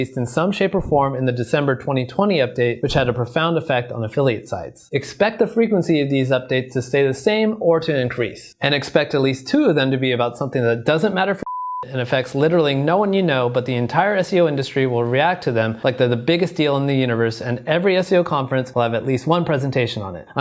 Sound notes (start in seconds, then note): 11.4 beep